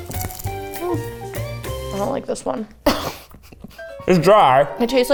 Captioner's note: laughs; upbeat parlor music